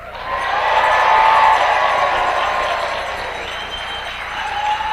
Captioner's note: audience applauds